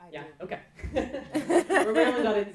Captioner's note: laughing